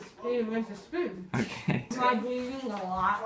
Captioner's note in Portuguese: risos